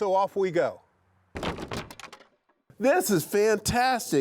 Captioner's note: wood rattling